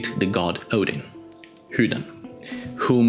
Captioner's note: swedish pronunciation